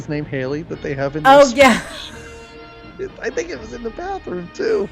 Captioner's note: laughs